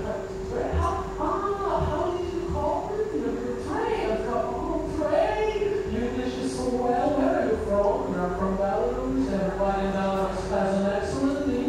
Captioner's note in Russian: за кадром выступает Слава Комиссаренко на английском языке